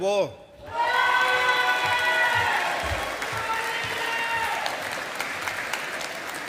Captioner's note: audience applauding